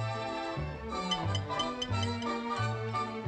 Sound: tinkering sounds

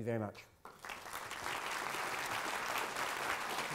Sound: applause

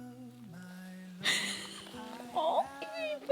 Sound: laughing

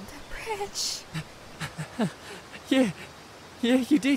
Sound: weak laugh

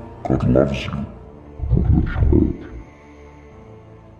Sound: in deep voice

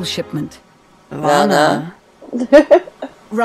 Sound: laughs

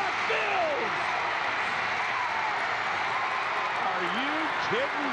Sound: crowd cheering

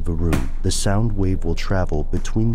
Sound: thump

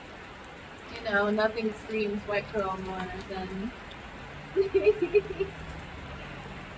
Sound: laughs

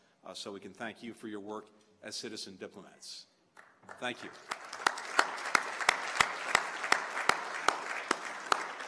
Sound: applause

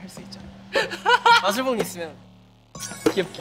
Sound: laughing

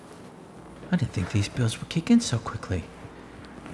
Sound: voiceover

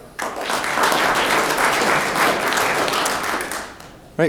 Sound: room applauds

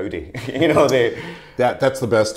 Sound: chuckling

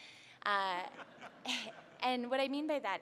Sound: laughing

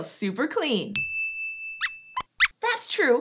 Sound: squeaks squeaks

